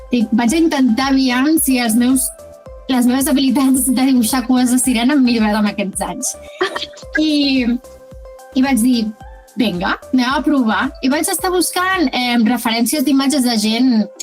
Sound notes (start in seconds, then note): 6.5 laughs